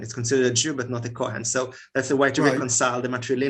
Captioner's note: Hebrew